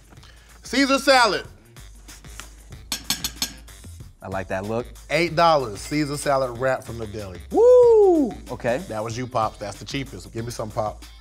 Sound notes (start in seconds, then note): 2.9 fork clinking